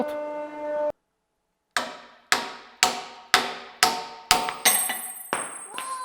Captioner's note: hammer sounds